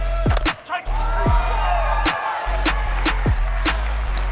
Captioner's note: crowd cheering; fun music